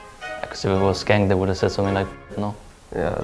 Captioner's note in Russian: Говорит по-датски